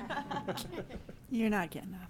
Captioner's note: all laughing